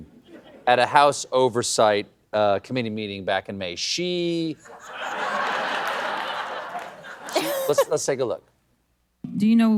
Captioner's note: laughter